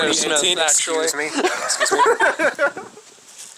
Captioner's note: people laugh off-camera